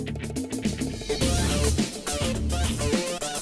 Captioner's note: swish sound